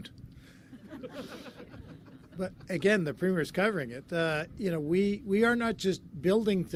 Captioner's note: laughter